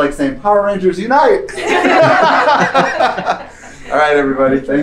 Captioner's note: laughter